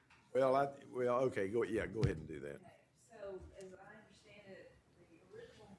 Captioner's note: none